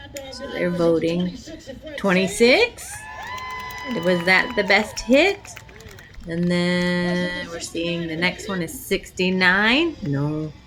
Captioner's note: crowd cheers